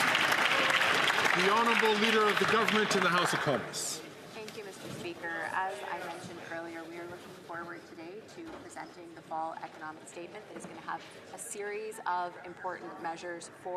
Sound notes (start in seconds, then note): 3.6 some Applause